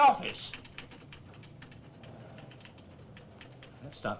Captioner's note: typewriter chattering